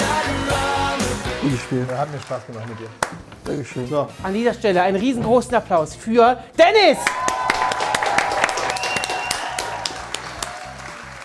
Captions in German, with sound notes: Hat mir Spaß gemacht mit dir. (Er murmelt.) An dieser Stelle einen riesengroßen Applaus für Dennis! (Jubel, Applaus)